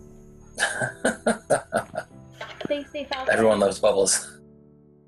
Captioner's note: laughs